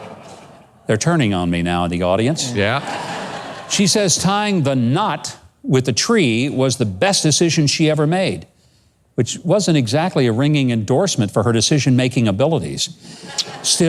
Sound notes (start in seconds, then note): 0.1 laughs; 2.4 laughs